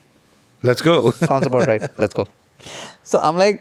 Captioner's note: laughs